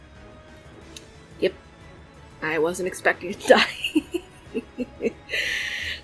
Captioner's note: laughs